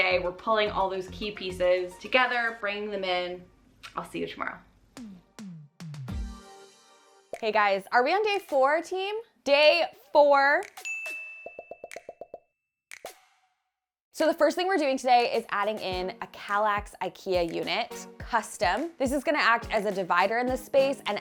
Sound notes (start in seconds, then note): 10.8 bell dings